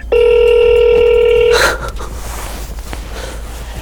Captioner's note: phone ringing